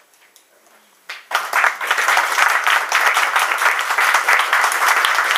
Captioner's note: polite applause